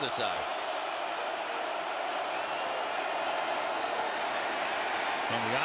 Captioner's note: cheering